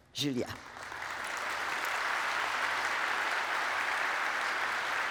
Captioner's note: applause